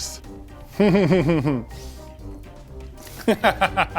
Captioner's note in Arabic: يضحك